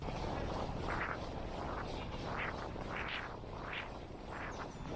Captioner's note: wind noise